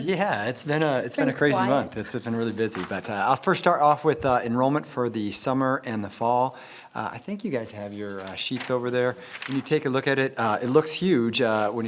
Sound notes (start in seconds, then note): none